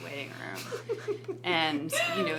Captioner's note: laughs